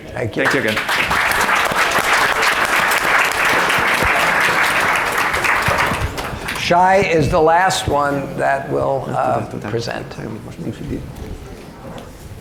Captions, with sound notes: Thank you. Thank you again. (audience applause) - Shai is the last one that will present.